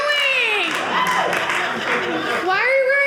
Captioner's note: audience laughing